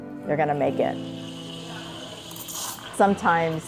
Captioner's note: milk frothing